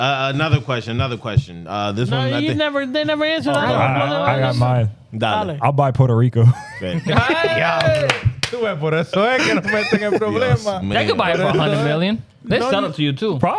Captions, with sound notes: Another question, another question. No, they never answer that. I got mine. I'll buy Puerto Rico. (Laughing) (Speaking In Foreign Language) They could buy it for 100 million. They sell it to you too.